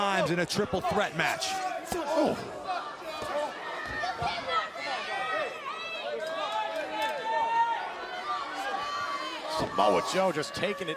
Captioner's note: crowd chatter